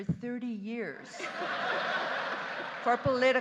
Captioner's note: audience laughing